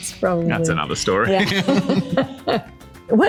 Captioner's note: laughing